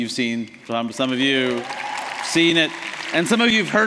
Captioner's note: applause